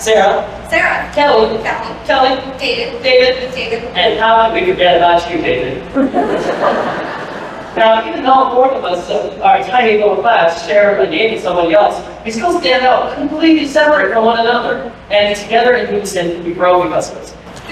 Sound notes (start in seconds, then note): 5.9 laughter